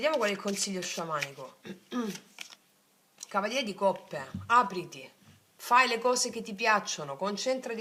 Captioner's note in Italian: schiarire la voce